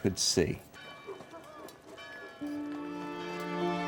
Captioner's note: bell ringing; somber music